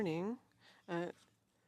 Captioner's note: speaking French